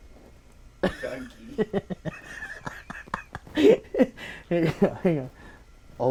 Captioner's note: laughing